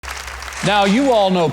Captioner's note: audience applauding